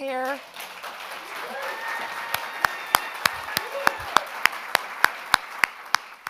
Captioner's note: audience applauding; audience cheers